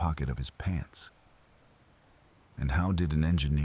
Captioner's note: wind Blowing